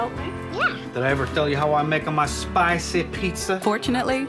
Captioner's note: with Italian accent